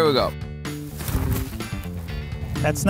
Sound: clothes rustling

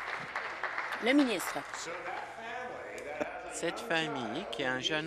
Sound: applause

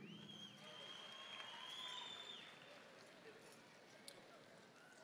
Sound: audience applauding

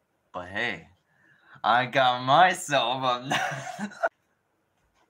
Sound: insert more laughing

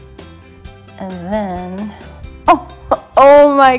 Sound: laughs

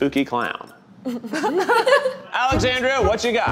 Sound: laugh; upbeat jazz music

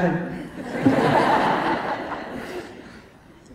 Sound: laughter

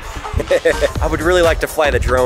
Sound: chuckles

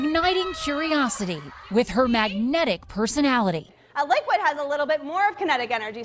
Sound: cheers

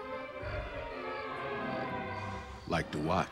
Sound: <i> exhales deeply</i>

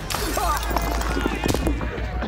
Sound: tense music; glass shattering, punches assassin

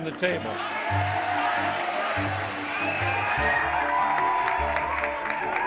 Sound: cheering; clapping

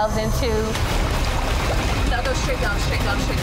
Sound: urgent music; water gurgling

